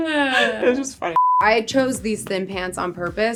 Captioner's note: beep